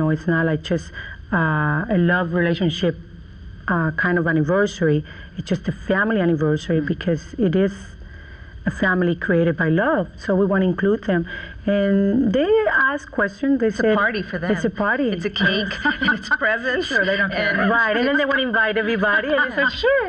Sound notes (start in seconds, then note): 15.3 laughs